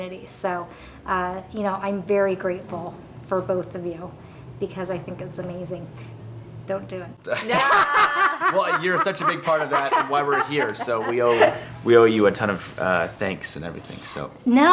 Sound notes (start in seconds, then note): 7.4 laughing